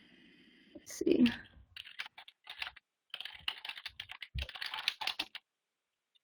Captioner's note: typing